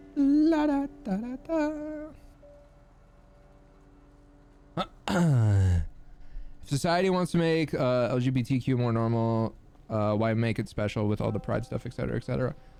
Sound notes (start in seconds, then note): 0.2 singing; 4.8 clears throat